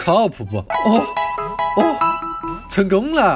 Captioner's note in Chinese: 奇怪的呻吟